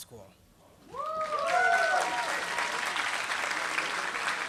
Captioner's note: applause